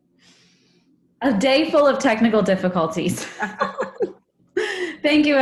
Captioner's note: laughs